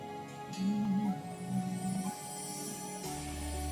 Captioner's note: humming along